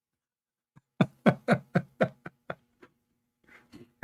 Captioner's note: Ketawa